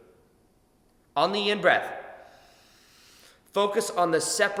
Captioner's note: inhales deeply